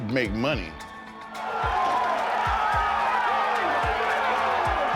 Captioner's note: audience cheering